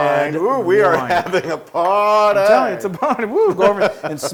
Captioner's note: laugh